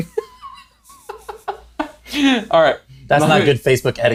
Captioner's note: laughs